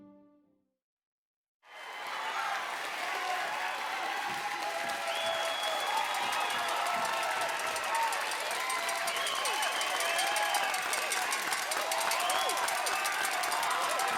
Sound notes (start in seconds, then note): 1.9 audience applauding